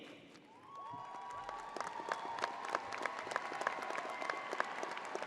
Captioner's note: crowd applauding